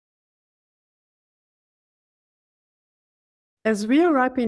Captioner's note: silence